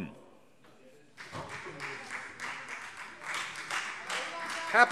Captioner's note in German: Beifall Freie Demokraten